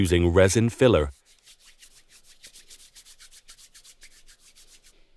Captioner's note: palm rubbing